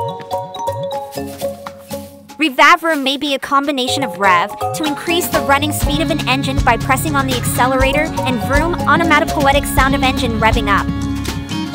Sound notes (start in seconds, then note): 6.5 onomatopoetic sound of engine revving up